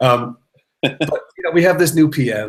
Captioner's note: laughter